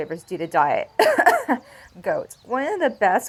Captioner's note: coughs in goat milk flashbacks